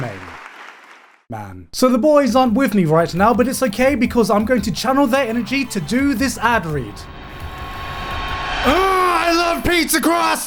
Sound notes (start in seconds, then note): 8.5 groans